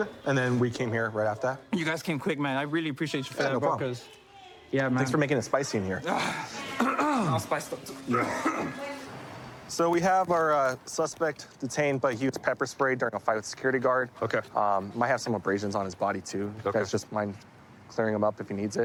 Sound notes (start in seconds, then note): 6.8 clears throat; 7.9 coughs